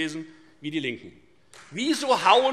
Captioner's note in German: Beifall Freie Demokraten